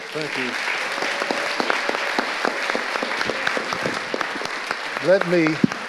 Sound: audience applauding

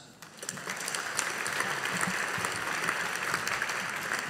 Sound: audience applauding

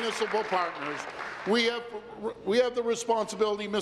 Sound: applause

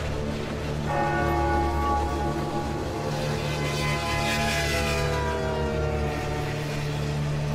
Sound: train horn blowing; church bell ringing; foreboding music continues

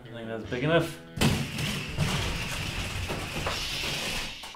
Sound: balloon makes noise as it rapidly deflates

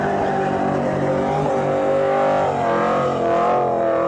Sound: engine roaring

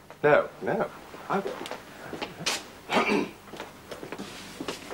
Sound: clears throat

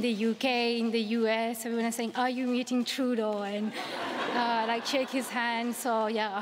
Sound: laughter

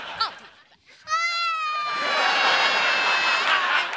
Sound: crying

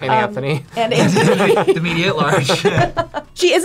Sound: laughs

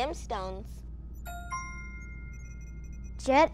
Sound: chimes

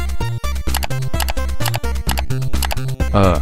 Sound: click spams

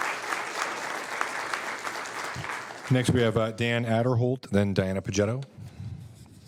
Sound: applause

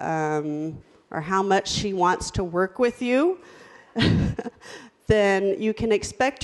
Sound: laughs

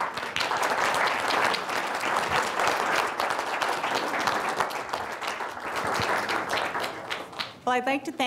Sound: audience Applause

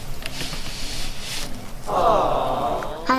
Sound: awww

